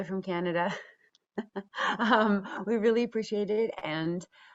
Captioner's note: chuckles